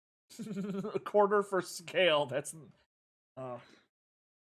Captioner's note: giggling